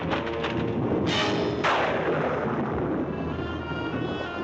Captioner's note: thunderclap